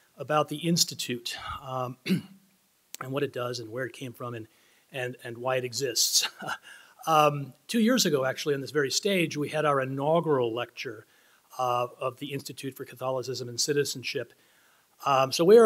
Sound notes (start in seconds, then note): 6.2 chuckling